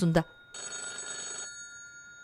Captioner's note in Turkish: Telefon zili sesi